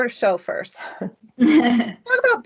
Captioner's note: chuckling